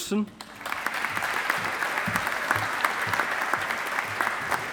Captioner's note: audience applauding